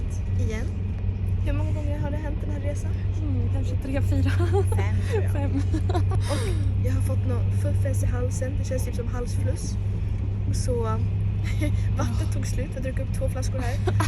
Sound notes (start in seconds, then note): 4.2 laughs